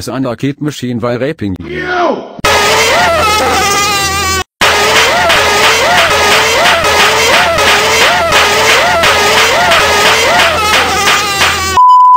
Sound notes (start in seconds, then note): 4.5 raping and screaming